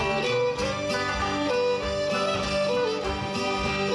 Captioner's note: audience clapping